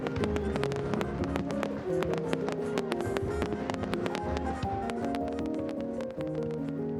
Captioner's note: soft music; fireworks sound